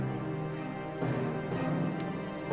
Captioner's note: footsteps; suspense music intensifies